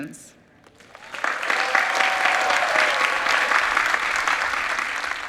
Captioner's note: audience cheering